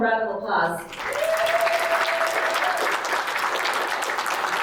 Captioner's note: audience applauding